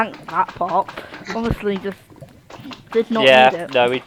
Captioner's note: laughing